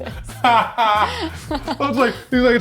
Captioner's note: laughing